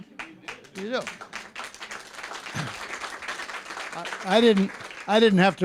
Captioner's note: applause